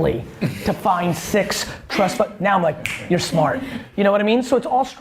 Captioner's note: snaps